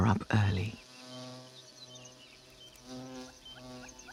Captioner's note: buzzing